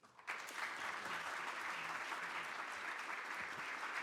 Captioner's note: audience claps